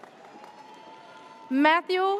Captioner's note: audience cheers